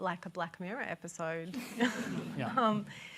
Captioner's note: laughter